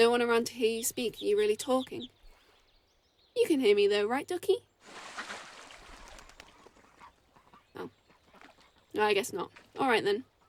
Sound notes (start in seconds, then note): 4.8 splash as duck flies off